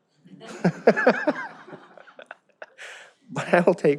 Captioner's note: all laugh